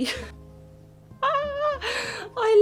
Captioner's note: happy noises